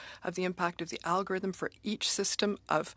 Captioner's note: speaking FRENCH